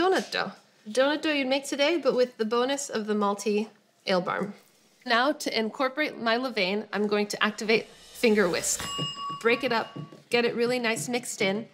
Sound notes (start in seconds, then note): 8.0 bell rings